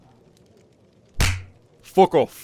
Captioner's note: slap